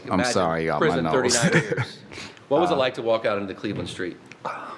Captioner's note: laugh